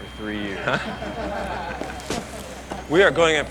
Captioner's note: squad laughs